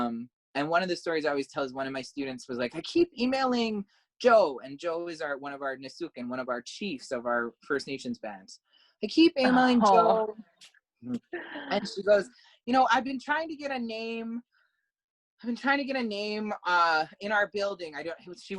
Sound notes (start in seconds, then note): 11.0 laugh